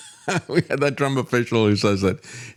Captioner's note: laughs